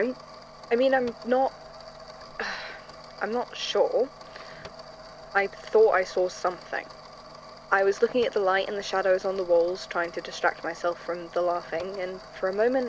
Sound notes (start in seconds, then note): 2.4 sighs